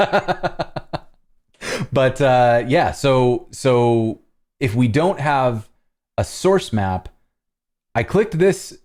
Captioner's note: laughter